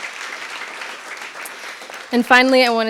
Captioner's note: audience clapping